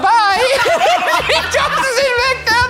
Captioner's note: laughing